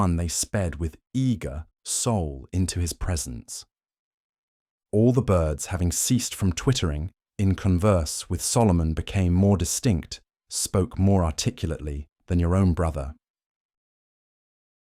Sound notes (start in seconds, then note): 10.4 spoke more articulately